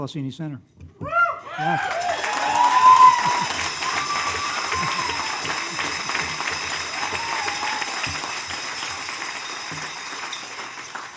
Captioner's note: cheers and applause